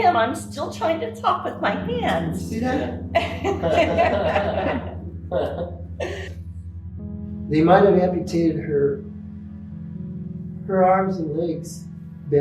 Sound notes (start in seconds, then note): 5.4 laughing